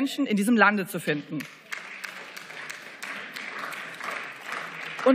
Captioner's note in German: Beifall